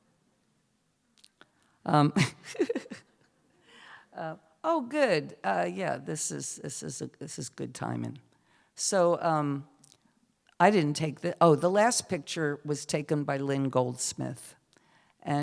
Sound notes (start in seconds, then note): 2.2 chuckles